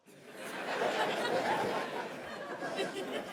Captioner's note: laughter